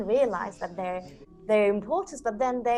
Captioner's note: guests vocalizing